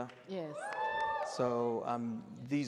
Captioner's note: audience cheers